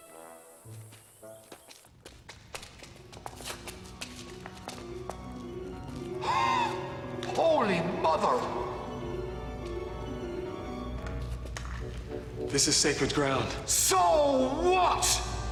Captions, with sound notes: (ominous music) (gasping) - Holy mother! - This is sacred ground. - So what?